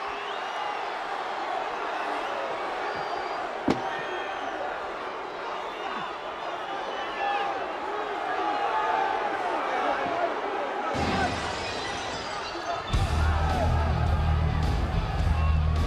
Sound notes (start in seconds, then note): 1.6 audience jeers; 11.1 glass shatters; 13.1 upbeat music